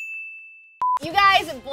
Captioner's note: monotonous high pitch sound